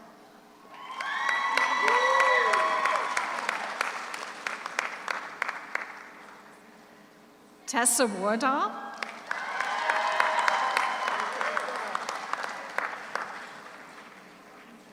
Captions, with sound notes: (audience cheers) (audience applauds) Tessa Wardle. (audience cheers) (audience applauds)